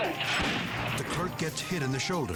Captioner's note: gunshot rings